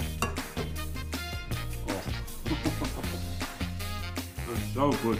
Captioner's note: chuckles